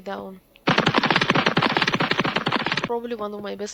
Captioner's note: goofy cartoon running sounds